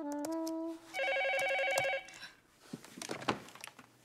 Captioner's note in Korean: 전화벨 소리